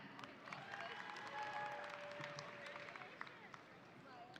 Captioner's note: audience applauding